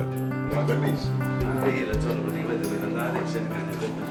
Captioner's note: speaks italian